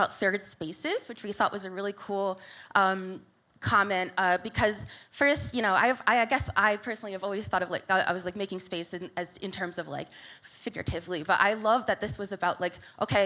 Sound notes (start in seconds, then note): none